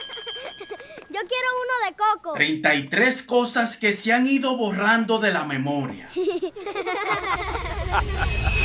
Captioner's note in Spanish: risas